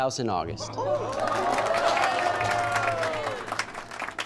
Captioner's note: crowd applauding